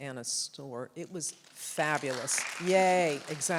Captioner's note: audience applauds